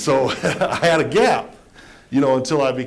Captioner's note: laughter